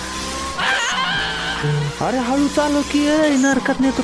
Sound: screaming

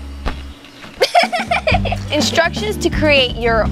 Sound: giggling

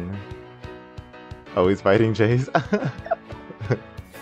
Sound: giggles

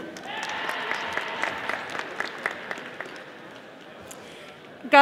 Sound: audience applauding

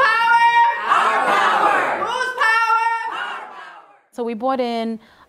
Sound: chanting

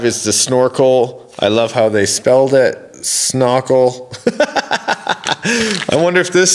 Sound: laughs

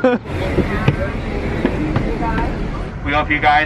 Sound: laughs

